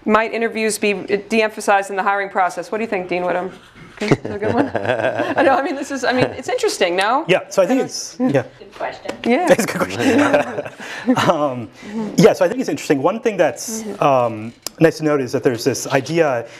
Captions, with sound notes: Might interviews be de-emphasized in the hiring process? What do you think, Dean Whitham? Would it be a good one? >> [LAUGH] >> I mean, it's interesting, no? >> So I think it's yeah, it's a good question. >> Yeah. >> [LAUGH] >> Yes, so I think it's interesting, one thing that's, let's notice that there's this idea